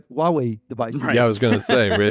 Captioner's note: laughs